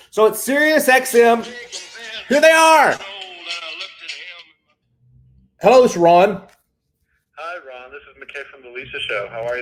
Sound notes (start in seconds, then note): 2.9 phone ringtone